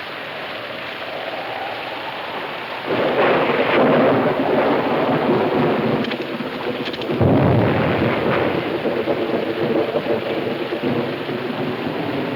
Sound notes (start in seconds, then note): 1.3 thunder claps; 1.3 wind howling